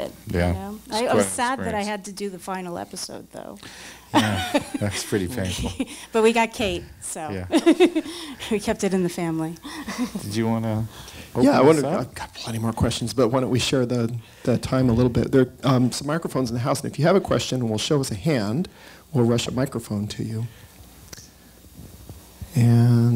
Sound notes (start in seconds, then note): 4.1 laughs; 8.7 laughs